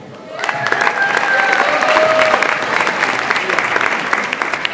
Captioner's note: audience applauds